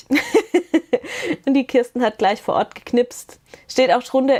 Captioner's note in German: Gelächter